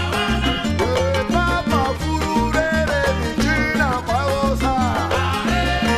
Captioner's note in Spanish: Lenguaje indígena